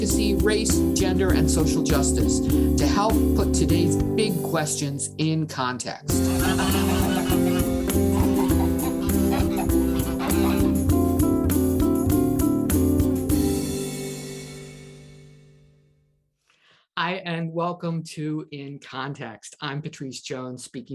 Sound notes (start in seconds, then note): 6.2 geese honking